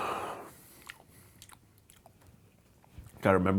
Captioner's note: lips smacking